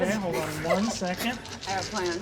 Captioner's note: dice rattling